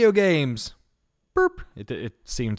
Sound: imitates beep

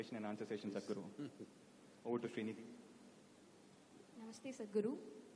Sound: chuckles

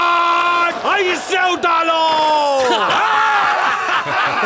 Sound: laughs

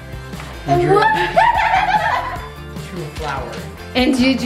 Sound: laughs

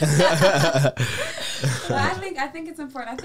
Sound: all laugh

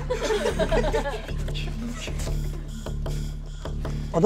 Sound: audience laughs; dramatic music

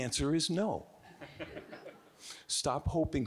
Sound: audience giggling

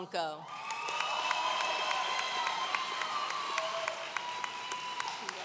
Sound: audience cheering

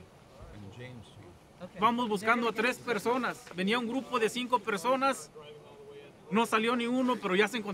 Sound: group leader speaks Spanish

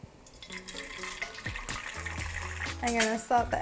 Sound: egg sizzling

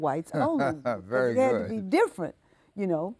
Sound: laughing

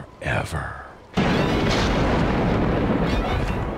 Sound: thundering

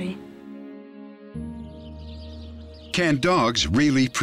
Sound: birds chirping

